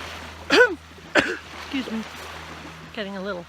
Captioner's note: cough